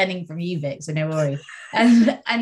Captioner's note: laughs